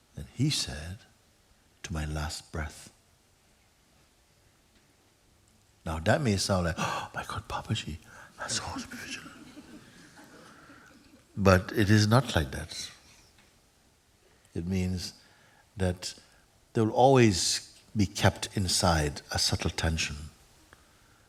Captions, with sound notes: And he said, 'To my last breath.' Now that may sound like, 'My God, Papaji! Has to always be vigilant!' [laughter] But it is not like that. It means there will always be kept inside, a subtle tension,